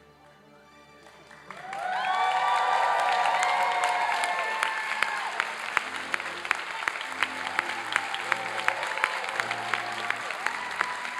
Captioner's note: classical orchestral music; applause and cheering